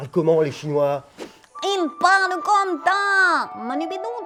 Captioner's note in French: voix caricaturale de chinoise